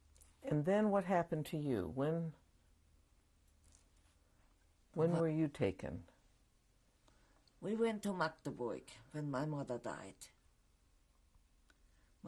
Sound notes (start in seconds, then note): 2.5 pauses for 3 seconds